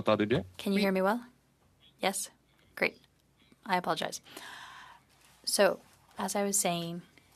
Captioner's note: speaking in French